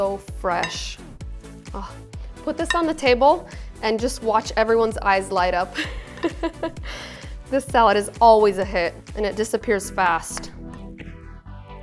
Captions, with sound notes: Put this on the table and just watch everyone's eyes light up. (laughs) This salad is always a hit and it disappears fast.